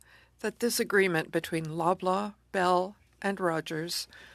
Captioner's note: speaking French